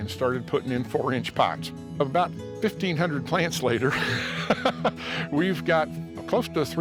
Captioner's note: laughs